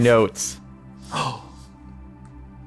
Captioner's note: gasp